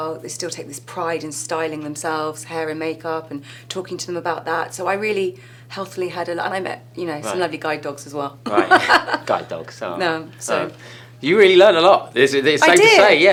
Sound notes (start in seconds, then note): 8.4 laughing